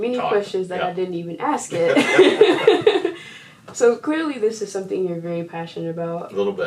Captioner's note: laughter